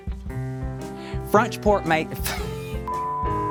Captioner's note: laughs